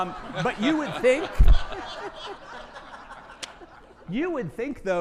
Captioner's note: audience laughing